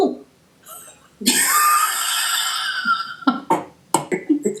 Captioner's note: burst of breathy laughter